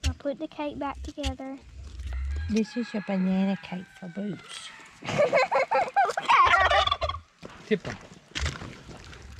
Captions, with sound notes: now put the cake back together this is a banana cake for Boots (laughter) Look at her